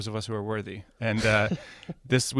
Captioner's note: laughs